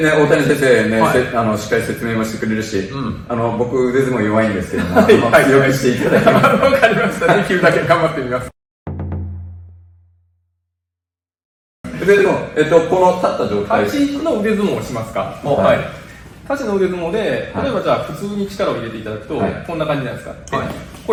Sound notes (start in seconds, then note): 4.7 laughs